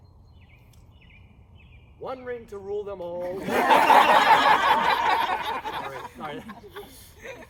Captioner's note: laughter